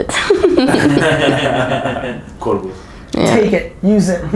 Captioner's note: chuckles